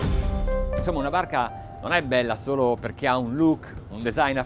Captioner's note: speaking foreign language